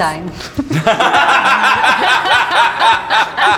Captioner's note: laughing; upbeat music